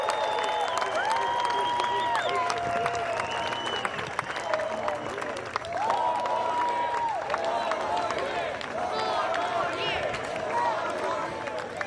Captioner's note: cheers and applause